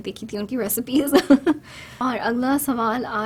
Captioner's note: laughs